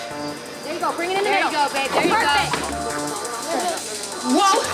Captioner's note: women chattering